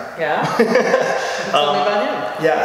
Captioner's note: laughing